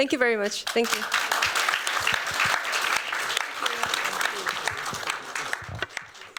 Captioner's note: applause